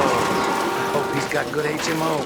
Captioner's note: tires squealing, cars crashing